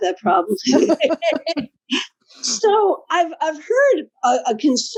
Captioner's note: laugh